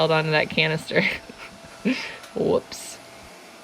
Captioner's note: chuckles